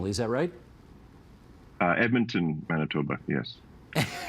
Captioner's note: laughter